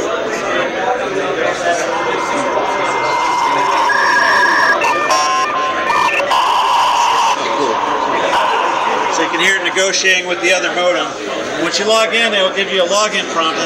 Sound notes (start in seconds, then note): 1.4 modem handshake sounds